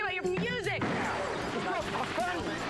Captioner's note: bang